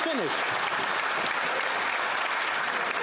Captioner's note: some Applause